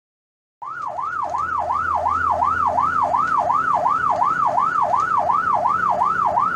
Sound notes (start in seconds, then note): 0.6 sirens